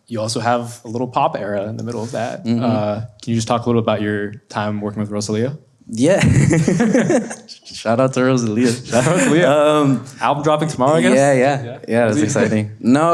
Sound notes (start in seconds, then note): 6.2 laughs